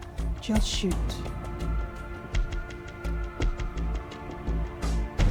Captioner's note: siren wailing